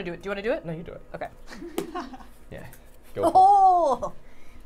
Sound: laughing

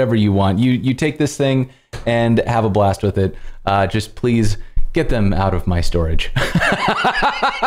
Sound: laughter

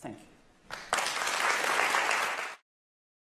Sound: applause

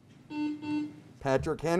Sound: buzzer beeps

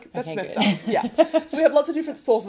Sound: chuckles

